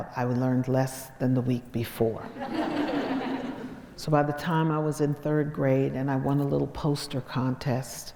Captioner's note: crowd laughs